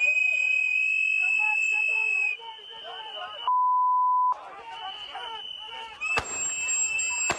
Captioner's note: beep; screaming